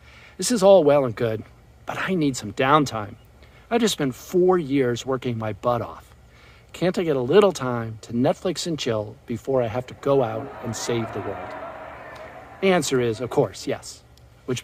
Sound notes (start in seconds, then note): 11.6 crowd laughs